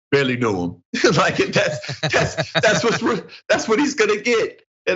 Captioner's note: laugh